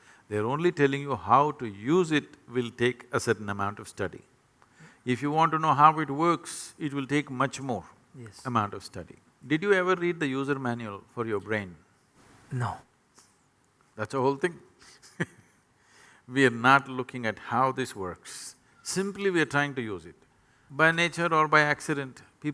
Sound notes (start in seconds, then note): 15.7 laughs